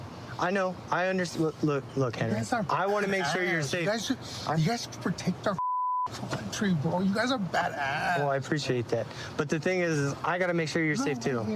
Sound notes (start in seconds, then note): 5.6 beep